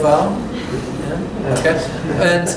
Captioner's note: laughter